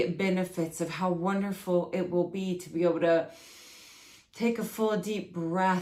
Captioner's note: breathes deeply